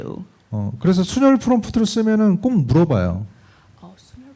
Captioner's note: speaking korean